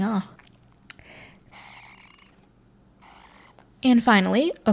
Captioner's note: sipping noises